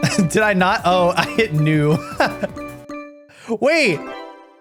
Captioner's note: laughs